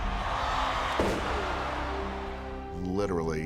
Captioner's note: crowd roaring